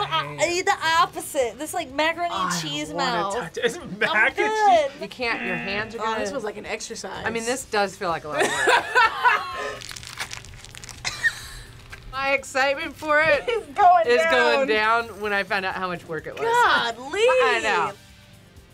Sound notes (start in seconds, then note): 3.4 laughs; 8.4 laughs; 8.4 both laugh; 9.8 slime squelches